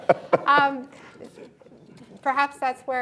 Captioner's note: laughter